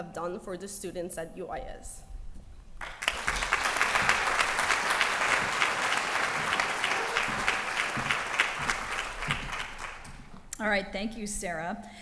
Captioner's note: applause